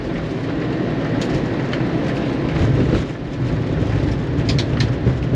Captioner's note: aeroplane rattles